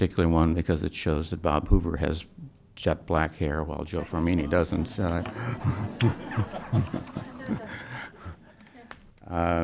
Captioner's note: brief laughter